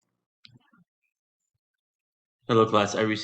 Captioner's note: silence